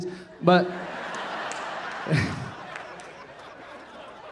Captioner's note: audience laughing